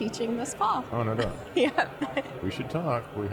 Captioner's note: chuckling